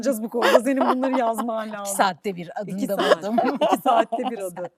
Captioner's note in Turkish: kahkaha; kahkaha